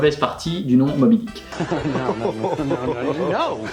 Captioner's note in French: rires